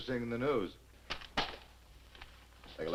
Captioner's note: paper thwacking